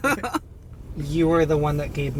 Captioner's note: laughing